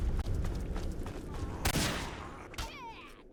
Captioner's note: ominous gunshot